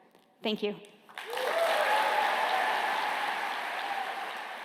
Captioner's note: applause